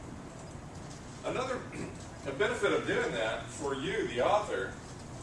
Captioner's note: cough